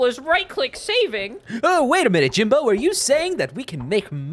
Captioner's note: Hugh Neutron voice